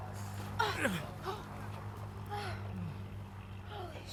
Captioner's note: groaning